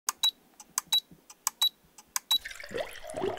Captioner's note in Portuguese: Bips; Som de líquido derramando